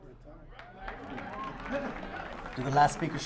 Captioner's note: audience applauds